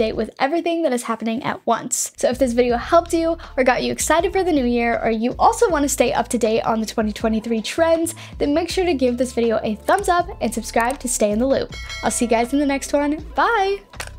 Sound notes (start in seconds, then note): 11.7 bell ringing; 13.9 downtempo music